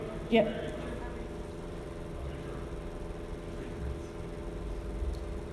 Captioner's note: man speaks faintly